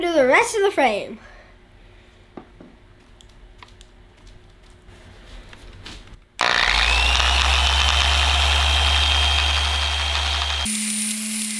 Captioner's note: machine sound